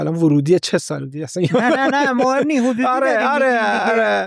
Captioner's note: laughs